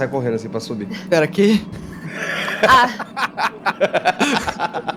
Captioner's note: laughter